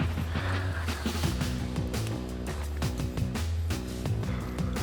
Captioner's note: breathes heavily